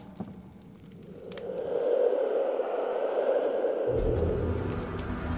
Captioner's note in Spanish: viento silbando; música emocionante